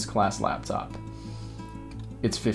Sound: breathes

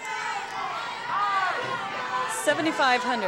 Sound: crowd shouting

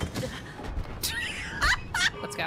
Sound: laughter

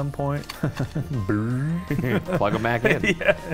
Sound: chuckles and mimics dial turning; laughing

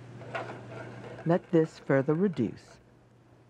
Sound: voiceover

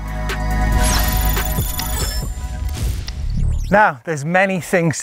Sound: electronic beeping

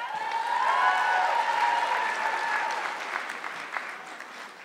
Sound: audience clapping

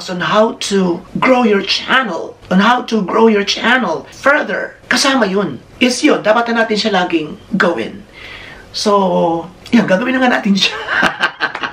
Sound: laughter

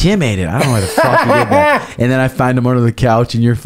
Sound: laughs

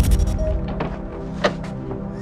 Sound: thud and beep; vehicle hatch opens

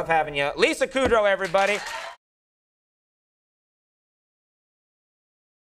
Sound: crowd cheering

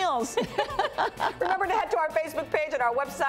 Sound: laughing

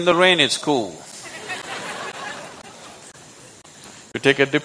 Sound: laughter

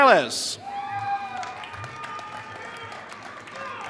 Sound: applause

